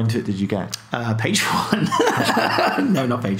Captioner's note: laughing